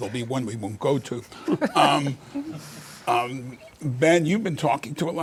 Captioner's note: laughter